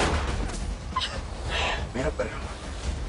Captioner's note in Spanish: Detonación de disparo